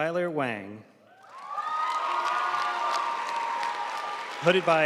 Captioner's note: audience cheering and applauding